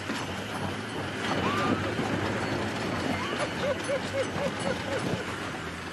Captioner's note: laughs